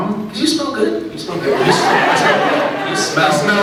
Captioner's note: laughs